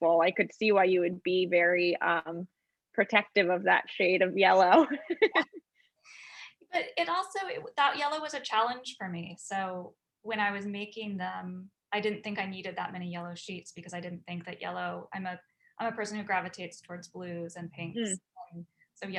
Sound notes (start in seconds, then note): 4.7 woman laughs